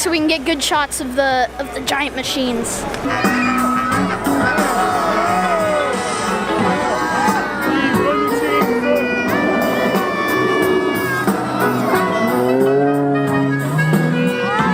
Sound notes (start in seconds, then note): 4.3 muffled music; 4.3 people cheering